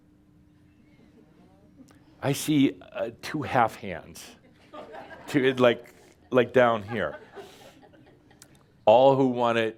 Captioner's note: some chuckles